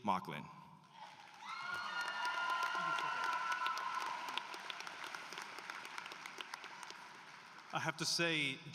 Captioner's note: applause